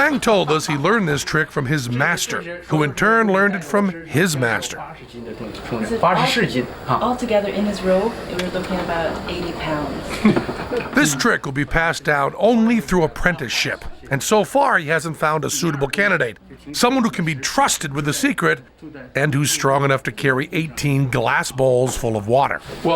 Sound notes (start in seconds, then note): 5.6 non-english speech